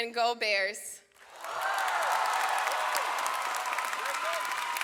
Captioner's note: audience applauds